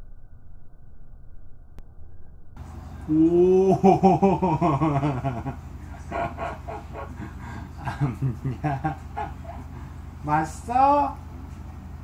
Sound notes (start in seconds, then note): 3.1 laugh; 5.8 laugh cont'd